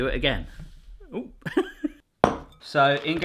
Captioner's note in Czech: chichotání